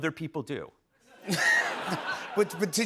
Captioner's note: laughter